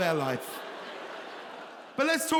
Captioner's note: audience laughing